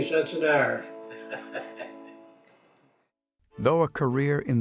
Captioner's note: chuckling